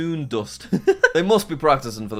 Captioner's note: laughs